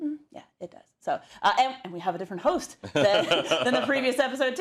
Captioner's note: laugh